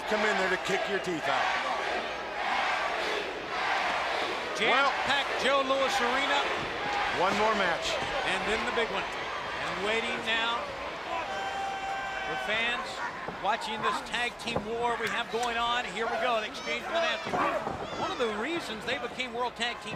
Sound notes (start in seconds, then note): 2.0 crowd cheering; 3.2 crowd chatter